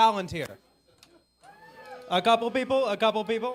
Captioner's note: audience cheering